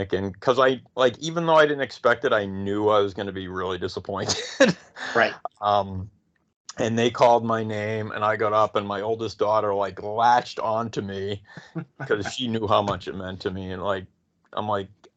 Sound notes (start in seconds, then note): 4.0 laughing; 11.4 laughing